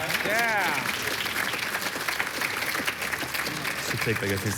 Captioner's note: applause